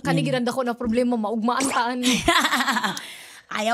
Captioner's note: laughs